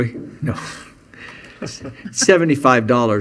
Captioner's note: chuckling